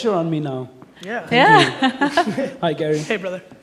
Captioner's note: laughing